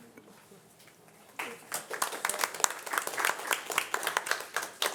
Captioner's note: audience applauding